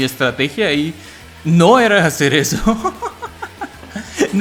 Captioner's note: laughs in happy accident?